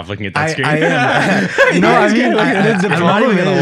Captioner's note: group laughing